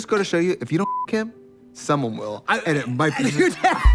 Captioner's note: beep